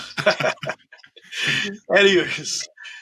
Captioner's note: chuckling; chuckles